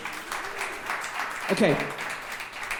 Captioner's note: audience clapping